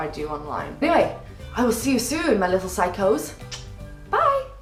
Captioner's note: kiss